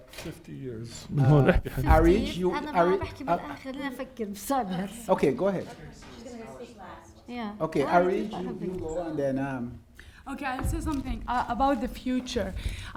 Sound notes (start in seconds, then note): 1.9 speaking arabic